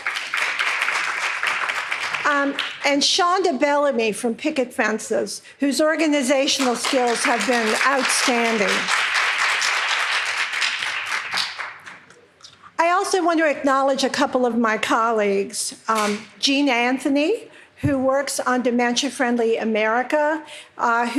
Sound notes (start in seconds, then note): 0.0 audience clapping; 9.2 audience clapping